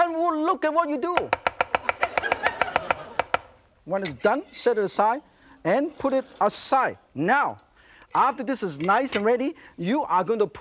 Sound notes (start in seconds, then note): 1.9 laughter